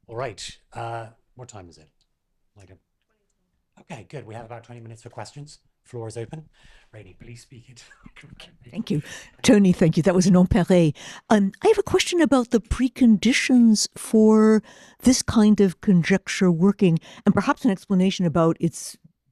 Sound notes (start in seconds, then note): 10.8 french